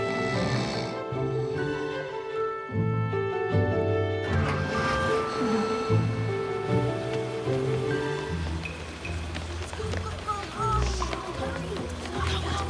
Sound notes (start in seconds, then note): 0.0 snoring; 4.2 bus engine starts